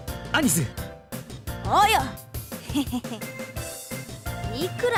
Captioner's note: scheming chuckle